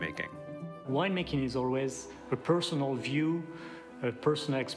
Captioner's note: with French accent